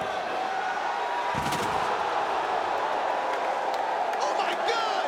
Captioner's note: crowd exclaiming; table crashing